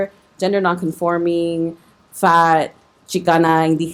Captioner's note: speaking foreign language